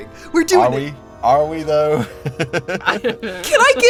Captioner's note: chuckles